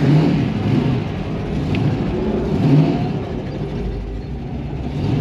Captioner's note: engine revving